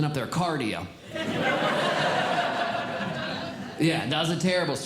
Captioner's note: audience Laughing